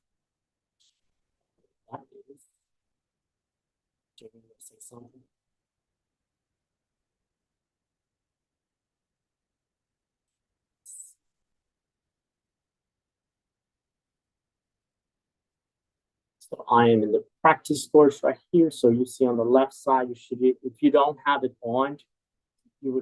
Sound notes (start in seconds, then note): 0.6 speaking faintly